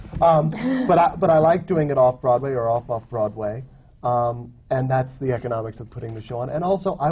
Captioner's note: laughter